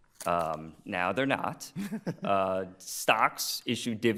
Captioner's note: laughing